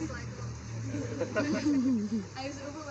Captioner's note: some laughter